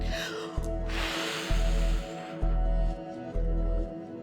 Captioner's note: heavy exhale